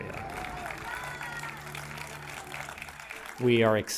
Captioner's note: audience applauds